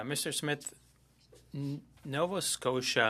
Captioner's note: speaking French